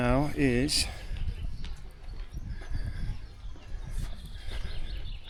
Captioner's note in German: Vögel zwitschern